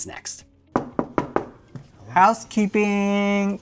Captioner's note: knocking